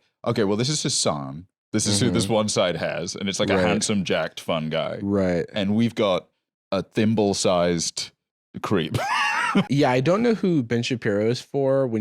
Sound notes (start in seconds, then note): 8.9 laughs